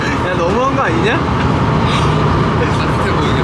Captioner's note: laughing